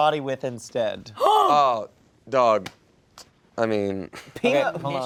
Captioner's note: gasps